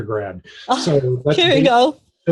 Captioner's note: laughs